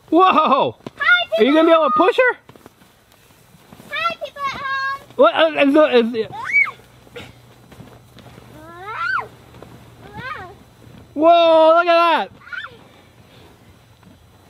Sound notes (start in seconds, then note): 5.4 stuttering; 8.7 assistant yelling and squealing